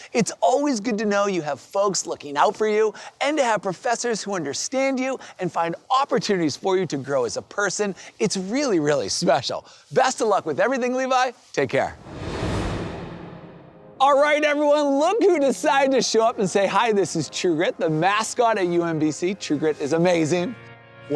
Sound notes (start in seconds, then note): 11.9 screen swooshing